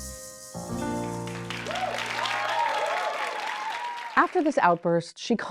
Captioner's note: audience applauding and cheering